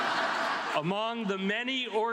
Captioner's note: audience laughs